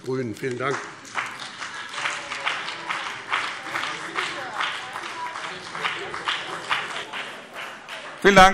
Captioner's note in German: Beifall BÜNDNIS 90/DIE GRÜNEN